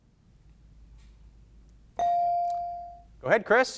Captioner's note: bell dinging